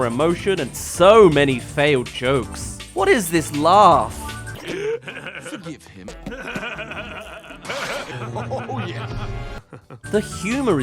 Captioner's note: BOB laugh compilation